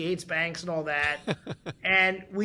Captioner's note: laughing